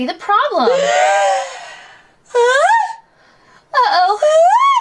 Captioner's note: gasps